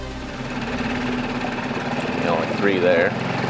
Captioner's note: engine rumbling